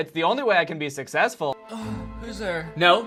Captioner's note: groaning